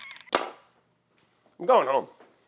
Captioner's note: knife clatters